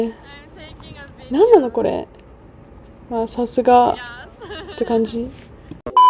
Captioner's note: confused